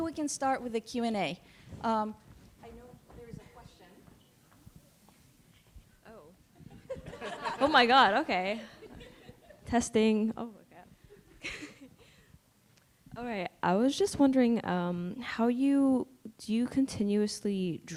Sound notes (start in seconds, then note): 6.6 laughter; 11.1 laughs